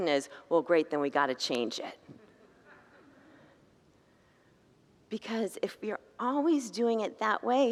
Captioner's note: congregants laugh